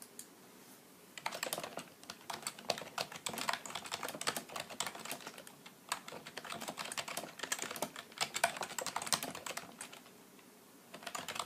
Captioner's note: typing